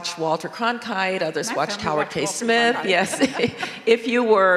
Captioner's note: chuckles